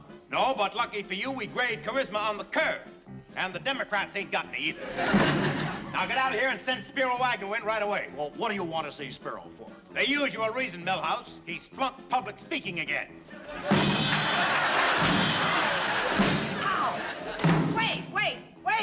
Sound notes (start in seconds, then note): 13.3 laughter